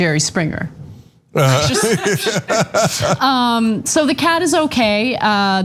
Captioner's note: laugh